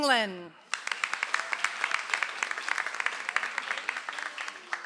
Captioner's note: audience applauds